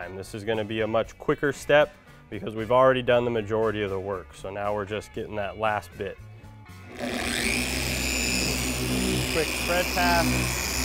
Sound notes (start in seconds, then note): 6.9 polisher whirs